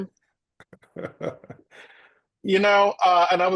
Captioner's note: laughs